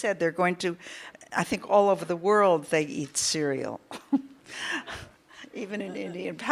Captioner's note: laughs